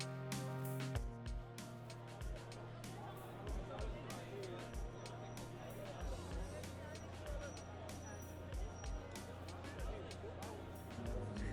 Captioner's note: rare outside sounds, like people speaking